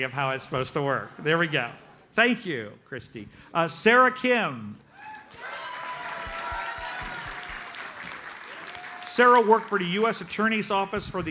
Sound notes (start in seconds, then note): 5.0 audience cheers and applauds